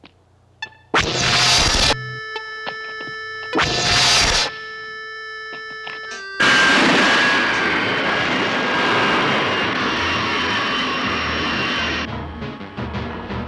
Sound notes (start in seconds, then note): 0.9 zapping; 5.7 tense music